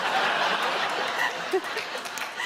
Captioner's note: laughter